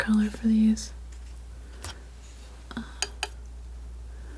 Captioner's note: scratching